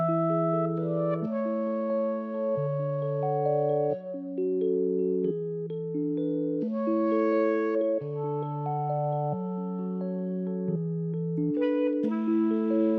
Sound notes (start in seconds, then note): none